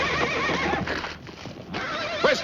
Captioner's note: horse neighing